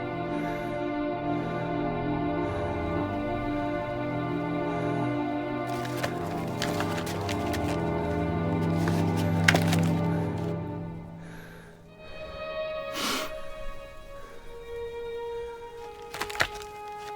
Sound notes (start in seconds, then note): 0.1 soft orchestral music continues; 12.0 Jacob sniffing